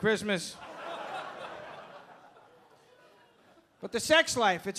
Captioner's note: audience laughing